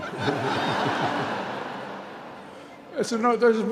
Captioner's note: laughter